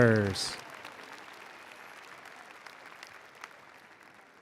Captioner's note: attendees applauding